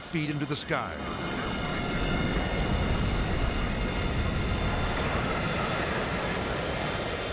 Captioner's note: intense music; fire blazing